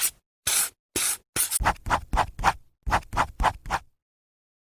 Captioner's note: marker pen squeaking